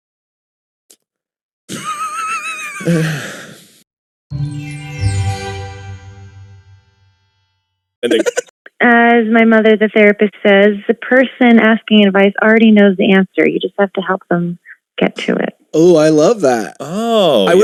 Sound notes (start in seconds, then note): 2.8 pained sigh; 2.8 wheezing in the background